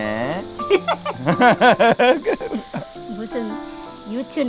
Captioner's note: both laughing